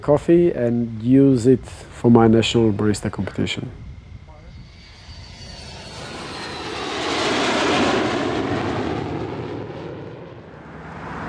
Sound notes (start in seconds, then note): 4.8 plane engine running